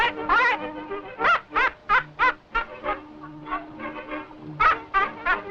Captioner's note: parrot squawking; parrot laughing